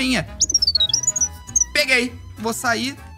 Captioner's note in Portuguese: som de assobio acelerado